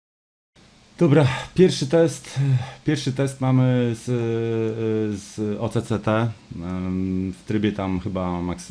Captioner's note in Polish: westchnienie